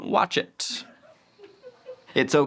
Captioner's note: producer laughs